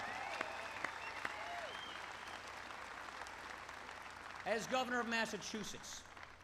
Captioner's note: applause